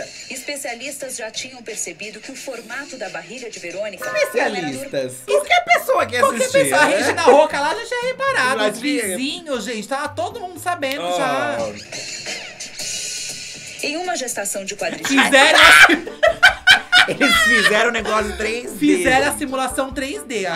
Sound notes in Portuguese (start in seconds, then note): 14.8 risos